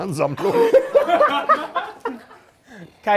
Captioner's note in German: Gelächter